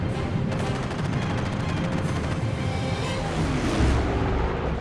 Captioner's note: gunfire